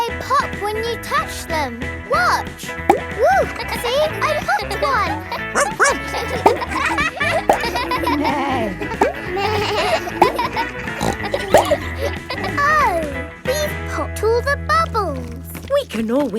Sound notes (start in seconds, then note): 3.8 kids laughing; 5.4 barks; 8.5 bleats; 9.0 neighs; 11.5 snorts